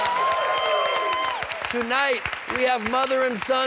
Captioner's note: cheers and applause